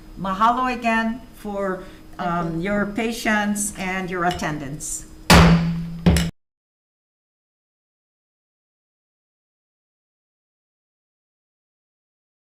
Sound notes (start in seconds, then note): 5.3 gavel slams the block